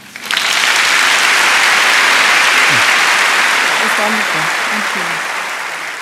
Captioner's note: applause